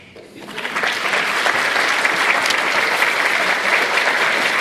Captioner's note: applause